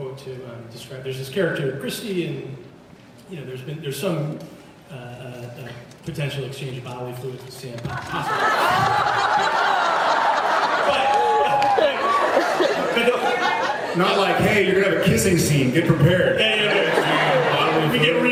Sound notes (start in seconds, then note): 8.0 laughs, cheers; 13.4 laughs